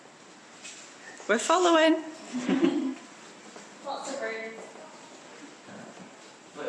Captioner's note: laughter